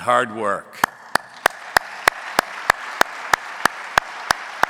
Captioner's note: audience applauding